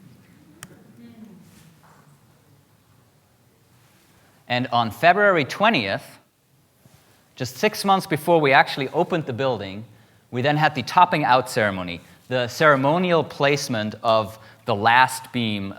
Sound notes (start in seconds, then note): none